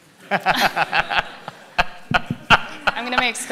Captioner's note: laughs